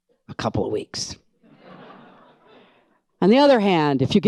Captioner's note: audience laughs